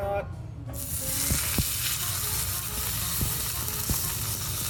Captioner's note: meat sizzling